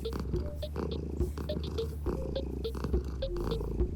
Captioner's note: Cauliflower purring